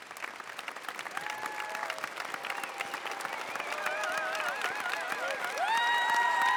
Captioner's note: applause, cheering